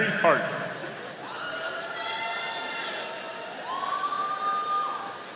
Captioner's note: audience cheering